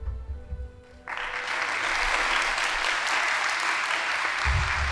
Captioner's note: audience applauding